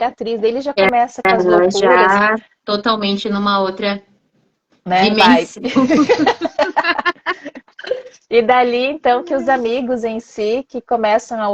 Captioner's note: laughter